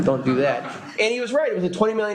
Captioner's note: laughter